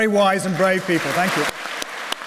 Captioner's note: applause